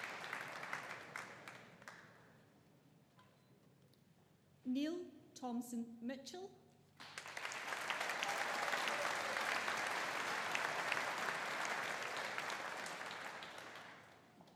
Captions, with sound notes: Neil Thomson-Mitchell. (AUDIENCE APPLAUDING) (AUDIENCE CHEERING)